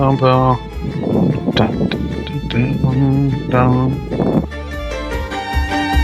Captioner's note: humming; playful music continuing; wind whooshing; humming; playful fast music continuing